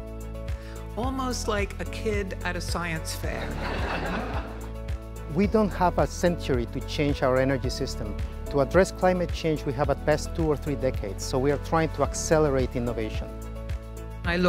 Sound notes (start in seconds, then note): 3.4 audience laughing